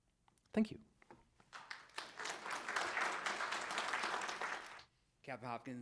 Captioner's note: audience applauding